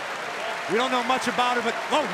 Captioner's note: crowd cheering